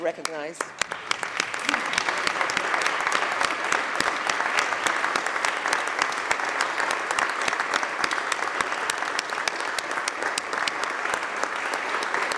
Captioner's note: applause